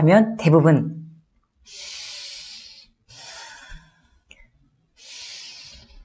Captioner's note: breathing